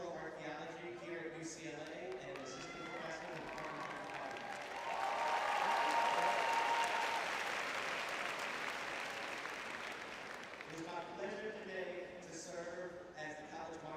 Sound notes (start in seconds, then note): 2.1 cheering; 3.4 applause